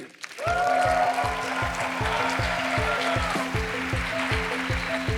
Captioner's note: applause